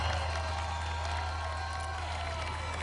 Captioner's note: cheering